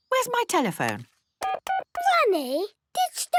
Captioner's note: dial tones beeping